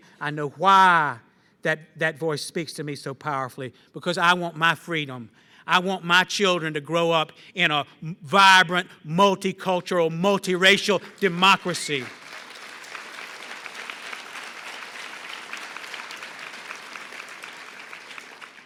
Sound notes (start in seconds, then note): 10.7 applause